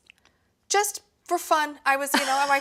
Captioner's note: laughs